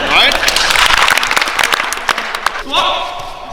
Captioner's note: crowd claps